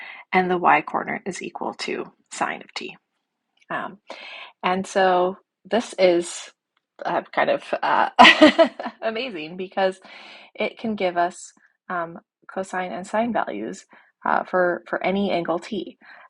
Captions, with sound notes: and the y coordinate is equal to sine of t. And so this is [laugh] kind of amazing because it can give us cosine and sine values for any angle t.